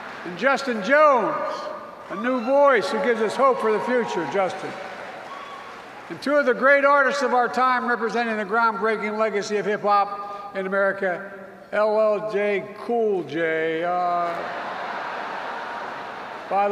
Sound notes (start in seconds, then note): 2.8 applause; 14.2 laughter